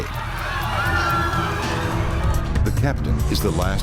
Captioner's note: passengers screaming; sinister music